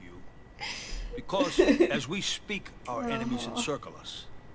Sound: laughter

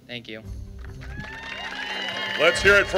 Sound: applause

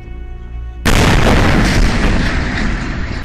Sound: explosion

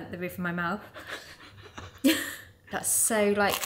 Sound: laughs

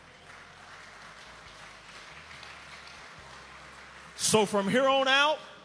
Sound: inmates applaud

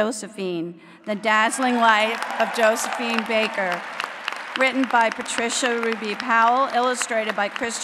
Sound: applause

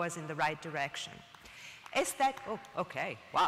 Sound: applause and whistling

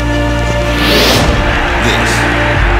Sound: awe-inspiring music; people cheering

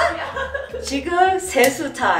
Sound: laughs

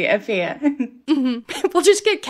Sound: laughter

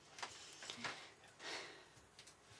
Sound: sighs

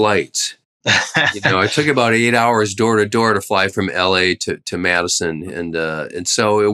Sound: laughter

